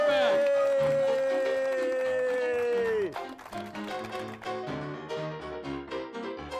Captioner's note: audience applauding; upbeat music continues